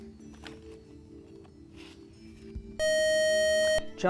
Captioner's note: buzzer